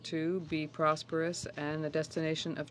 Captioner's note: speaking French